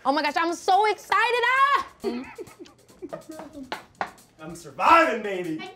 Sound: Keke Palmer screams

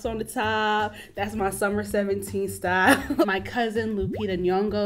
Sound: chuckles

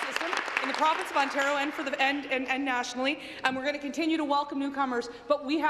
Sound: applause

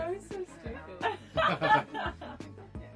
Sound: laughs; laugh

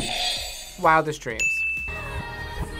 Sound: buzzer rings; bell rings; backwards music

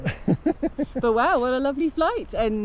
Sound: laughing

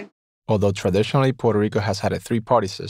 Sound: voiceover

